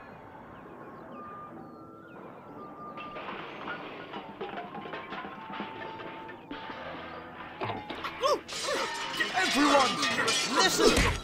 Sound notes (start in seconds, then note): 3.0 crashing and banging; 11.0 smack